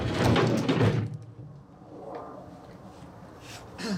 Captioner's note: saw rattling